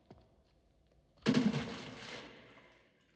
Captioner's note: water splashes